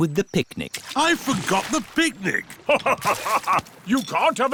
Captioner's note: laughs